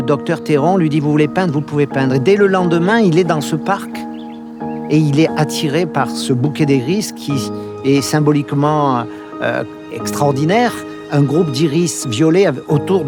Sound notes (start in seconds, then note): 0.2 speaking in foreign language; 5.2 speaking in foreign language continues